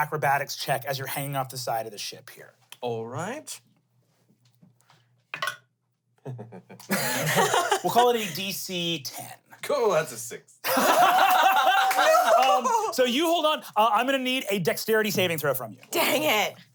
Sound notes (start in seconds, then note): 6.2 chuckles; 6.3 everyone laughs; 10.6 everyone laughs